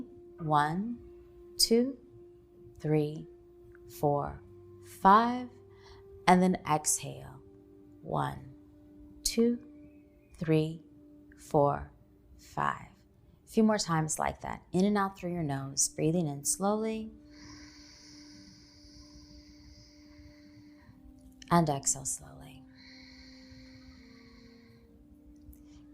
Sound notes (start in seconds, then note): 17.2 inhaling; 22.6 exhaling